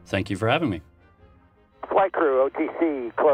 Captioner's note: radio transmission